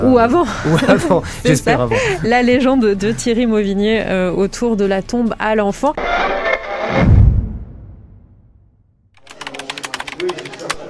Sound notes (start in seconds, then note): 0.4 laugh; 5.9 radio noise